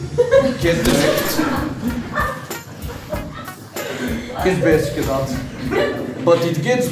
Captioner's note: laughing